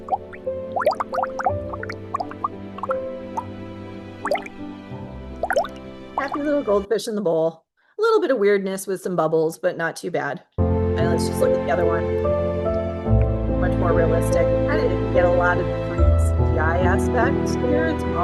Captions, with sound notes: (upbeat music) (bubbles popping) Happy little goldfish in the bowl. A little bit of weirdness with some bubbles, but not too bad. And let's just look at the other one. Much more realistic. I didn't get a lot of the points. The eye aspect here, it's